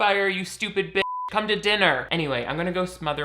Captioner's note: beep